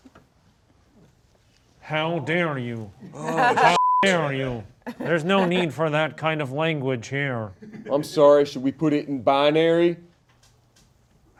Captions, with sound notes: How dare you. (Dumpster Wizard grunting) How (beep) dare you. There's no need for that kind of language here. - I'm sorry, should we put it in binary?